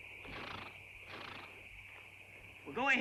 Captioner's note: horse snorts